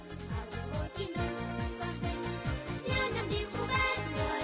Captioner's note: naive, joyful